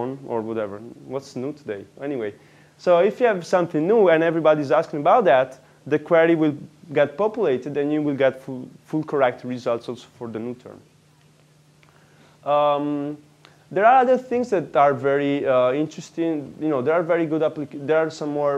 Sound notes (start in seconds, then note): none